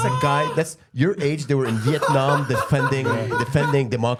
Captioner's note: screeching